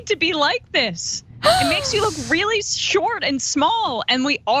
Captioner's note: laugh